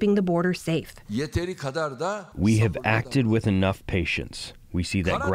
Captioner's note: through translator